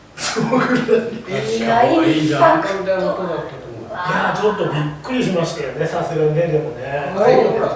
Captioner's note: laughs